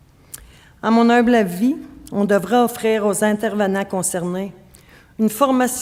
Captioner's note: speaking French